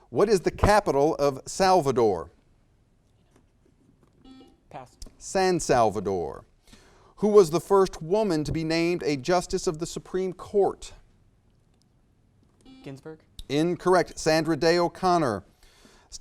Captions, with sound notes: What is the capital of Salvador? (buzzer beeps) - Pass. - San Salvador. Who was the first woman to be named a justice of the Supreme Court? (buzzer beeps) - Ginsberg? - Incorrect. Sandra Day O'Connor.